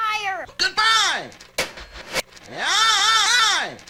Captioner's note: phone slams on receiver